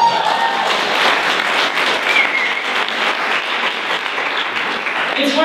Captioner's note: applause